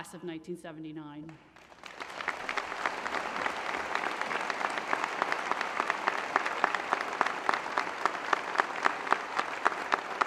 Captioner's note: applause